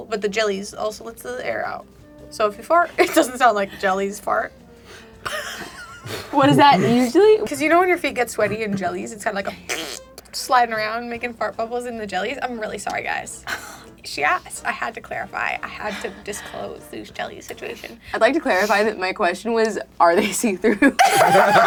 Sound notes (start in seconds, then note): 5.2 laughs; 9.5 mimic farting; 20.7 all laughing